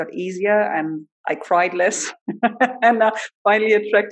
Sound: laughs

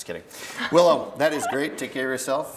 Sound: laughs

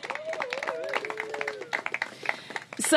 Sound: applause

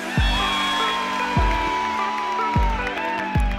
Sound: cheering

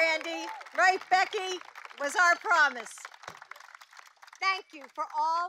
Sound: applause

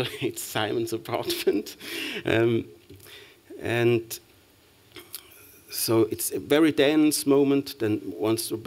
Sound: chuckles

